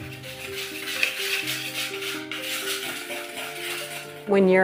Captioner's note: whisk whirring